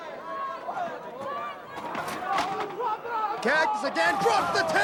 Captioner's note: crowd chatter